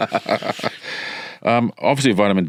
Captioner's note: both laughing